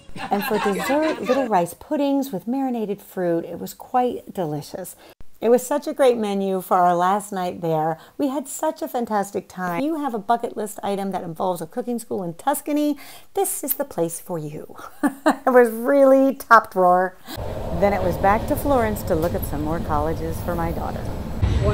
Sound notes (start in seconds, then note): 15.1 laughs